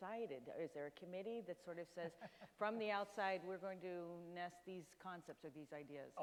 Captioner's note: Francis Collins chuckles